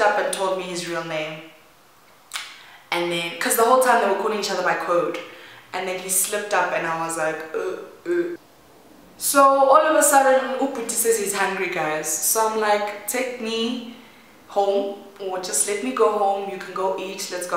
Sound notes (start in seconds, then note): 7.9 gasp